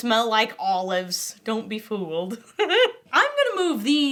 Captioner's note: laughs